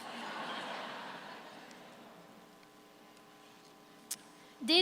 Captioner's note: audience laughs